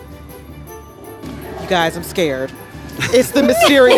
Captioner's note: laughing